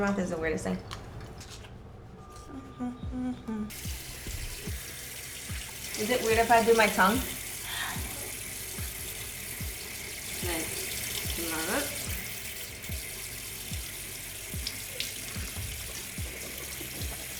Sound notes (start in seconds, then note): 2.0 humming; 9.0 running water